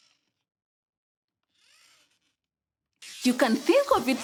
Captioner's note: robot whirring